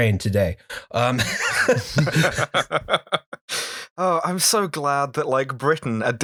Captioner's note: laughter